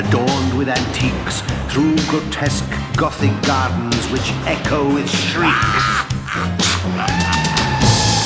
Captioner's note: monster cackles